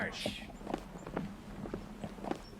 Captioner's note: voiceover; stomping; voiceover